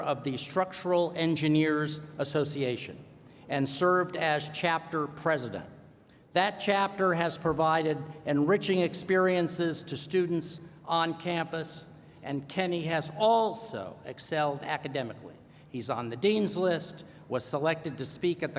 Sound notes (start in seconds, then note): none